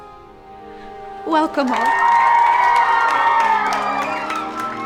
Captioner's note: campers cheering